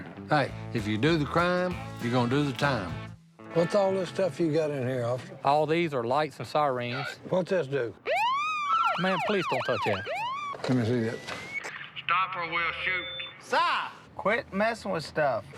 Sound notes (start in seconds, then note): 8.0 siren wails